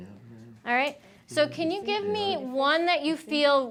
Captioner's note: students chattering faintly